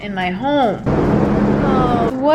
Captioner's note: helicopters sound